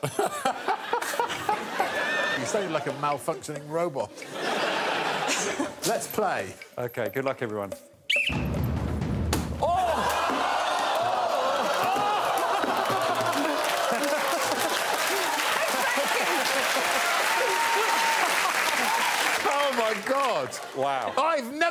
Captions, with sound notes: It's book, ball, brush, ball, ball. You say it like a malfunctioning robot. -Let's play. -Okay, good luck everyone. [blows whistle] [all exclaiming]